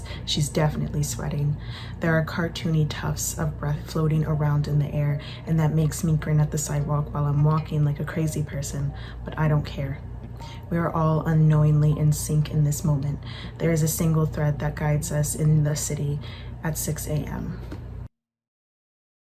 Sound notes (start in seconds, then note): none